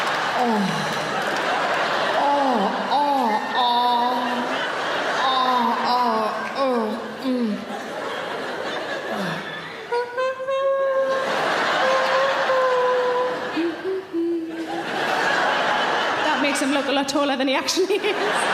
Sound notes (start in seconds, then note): 2.7 audience laughing; 7.6 audience laughing; 10.0 humming; 10.9 audience laughing; 13.8 humming